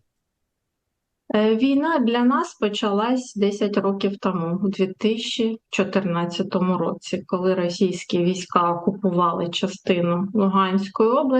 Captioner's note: foreign language